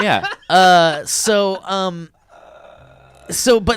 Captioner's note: laughing